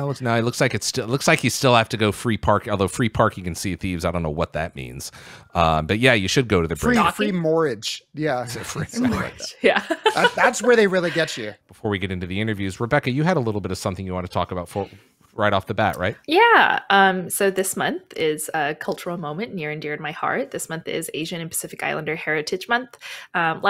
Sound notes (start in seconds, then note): 8.3 laughs